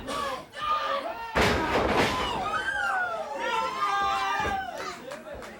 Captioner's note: body thudding